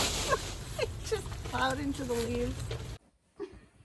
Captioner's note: laughing